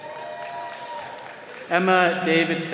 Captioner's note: attendees cheering